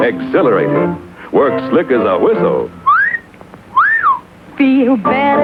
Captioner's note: whistle